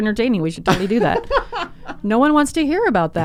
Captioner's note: laughs